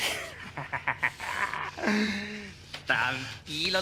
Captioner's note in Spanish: Risas